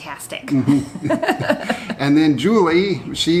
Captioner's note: laughs